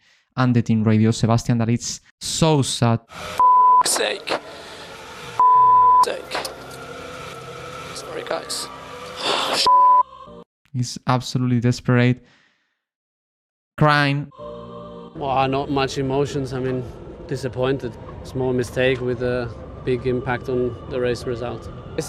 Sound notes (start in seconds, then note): 4.0 Sebastian Vettel Radio